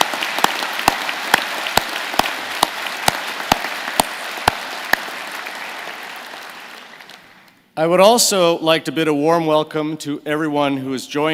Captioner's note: applause